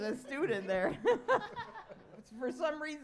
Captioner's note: laughter